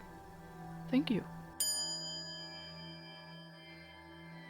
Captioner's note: quiet chime